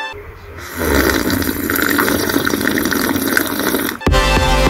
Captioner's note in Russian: хлюп-хлюп-хлюп-хлюп-хлюп